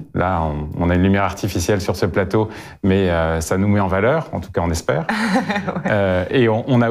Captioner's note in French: rires